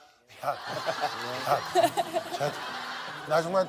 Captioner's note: haha